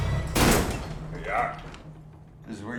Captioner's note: door bangs